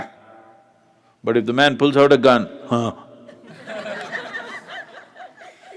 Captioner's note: laughter; 笑聲